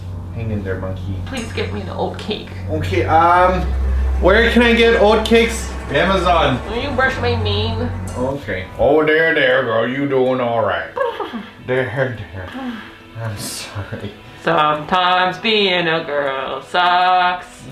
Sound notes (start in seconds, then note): 11.0 whinnying; 14.6 singing